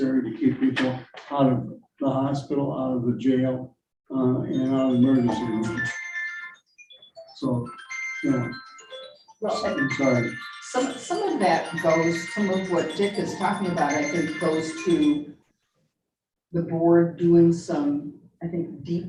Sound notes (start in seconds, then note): 6.3 mobile phone chiming; 9.4 chiming drowns out voice